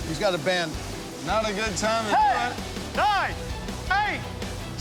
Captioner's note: shouting